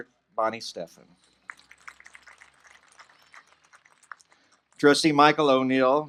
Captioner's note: applause